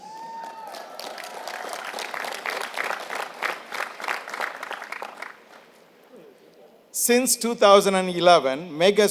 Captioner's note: applause